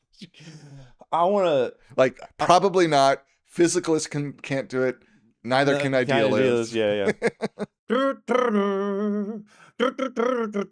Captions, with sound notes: I wanna... Like probably not, physicalist can't do it, neither can idealism. Yeah, yeah, yeah. (imitates music)